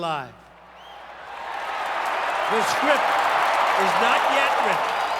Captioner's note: crowd cheering